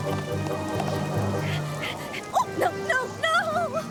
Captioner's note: panting